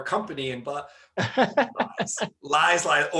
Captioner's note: laughing